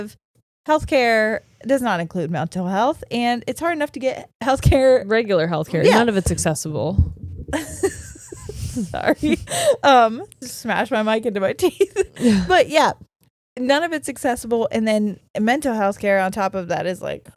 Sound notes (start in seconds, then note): 7.5 giggling